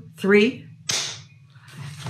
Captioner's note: clap!